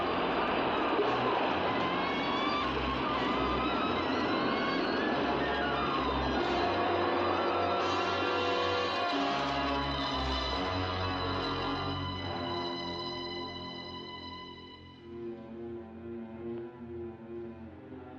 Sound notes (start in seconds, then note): 5.3 suspenseful music; 5.3 waves crashing; 11.2 suspenseful music; 15.0 eerie music